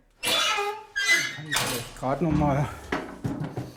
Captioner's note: creaking